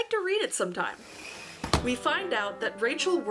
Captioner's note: swish and thunk; relaxed music